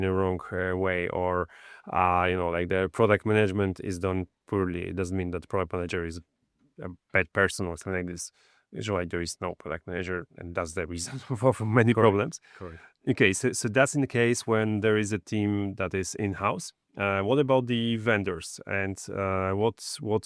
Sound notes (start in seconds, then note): 11.0 laughs